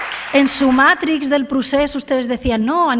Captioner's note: applause